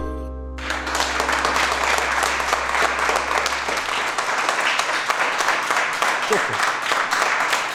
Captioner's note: clapping